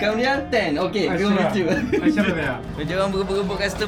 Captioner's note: laugh; speaking Arabic